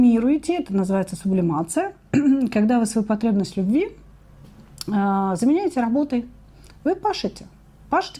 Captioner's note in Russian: откашливается